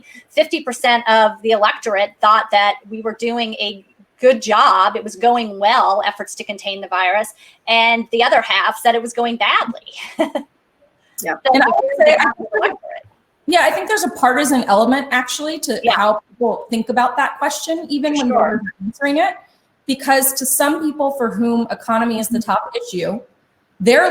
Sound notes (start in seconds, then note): 11.4 chuckles